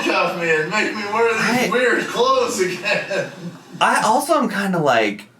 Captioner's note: laughing